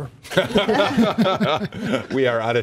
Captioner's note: laughter